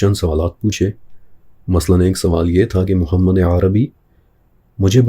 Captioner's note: Arabic